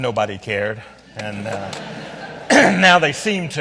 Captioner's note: audience laughs